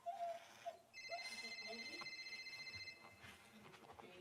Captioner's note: phone rings